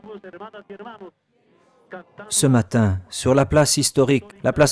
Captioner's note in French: Espagnol